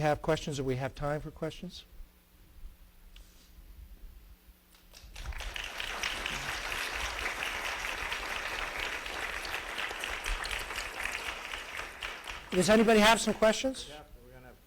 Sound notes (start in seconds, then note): 4.8 applause